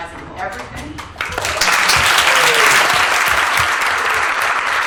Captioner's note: applause